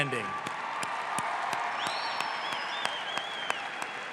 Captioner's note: audience applauds